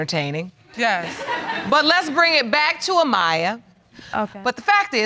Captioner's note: audience laughs